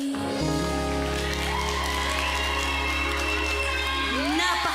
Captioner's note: cheering, applause